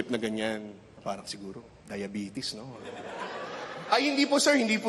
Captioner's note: laughter